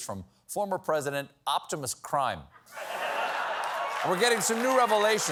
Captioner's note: laughter